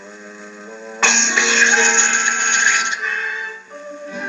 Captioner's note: hissing